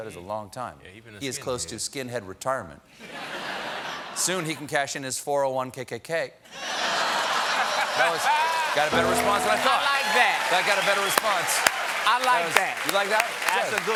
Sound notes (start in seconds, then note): 6.5 laughter; 7.2 applause